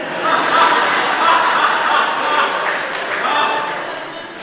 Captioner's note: audience laughing